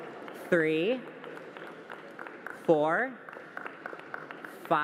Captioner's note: applause